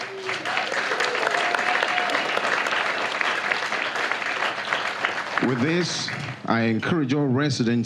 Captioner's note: applause